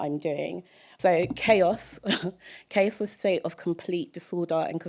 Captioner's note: chuckle